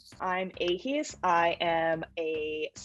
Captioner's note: none